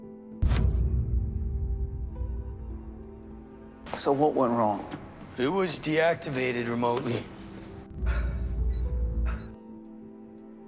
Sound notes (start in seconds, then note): 7.4 Philip breathing heavily